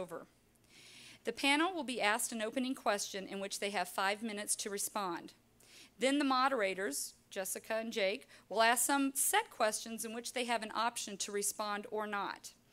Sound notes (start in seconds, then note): none